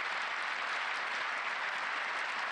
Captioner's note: applause